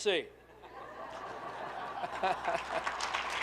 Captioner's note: group laughing; group clapping